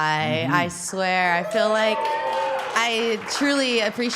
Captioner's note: audience cheering